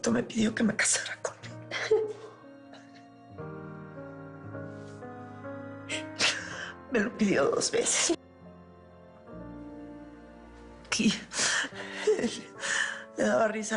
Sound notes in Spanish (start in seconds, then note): 1.6 Mónica llora